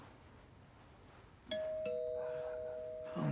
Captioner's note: doorbell rings